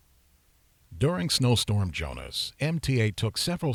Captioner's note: voiceover